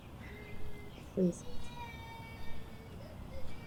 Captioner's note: baby crying